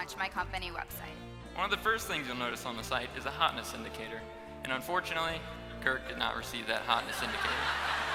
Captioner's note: laughter